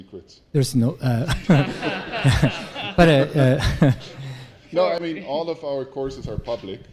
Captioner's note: laugh